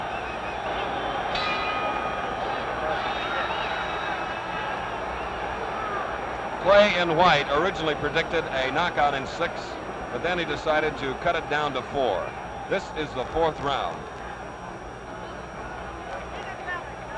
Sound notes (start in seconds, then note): 5.1 bell